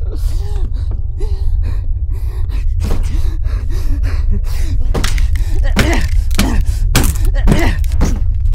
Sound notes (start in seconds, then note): 0.0 heavy breathing; 0.1 loud thud; 4.3 drywall cracks; 4.3 fist bouces against drywall